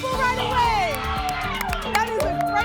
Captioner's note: applause and cheering